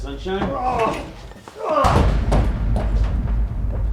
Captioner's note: henchman groans